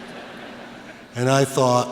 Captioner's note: laughter